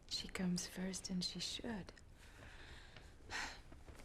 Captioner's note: sighs